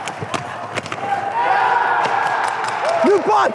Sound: cheering

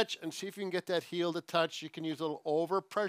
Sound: none

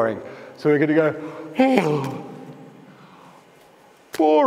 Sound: yawn

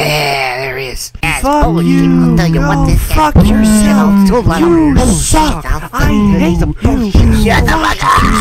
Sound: peanut gallery complaining

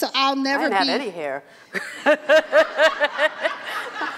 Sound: laughs

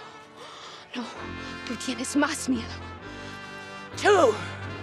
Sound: speaking in Spanish

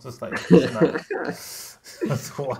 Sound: laughter

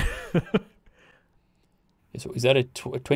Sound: laughing

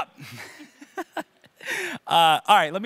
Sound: laughing

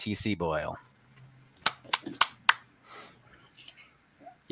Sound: applauds

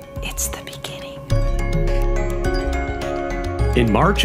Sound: whisper

